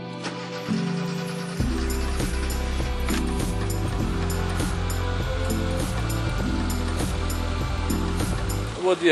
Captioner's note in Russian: слышна работа стартера и двигателя